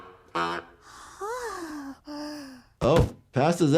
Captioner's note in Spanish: Lisa gime